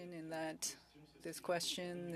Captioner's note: speaking French